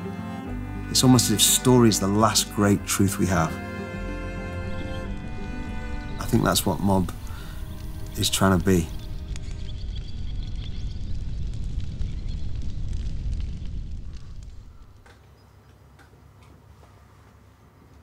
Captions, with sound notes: It's almost as if story's the last great truth we have. I think that's what MOB is trying to be. (birds chirping) (fire crackling)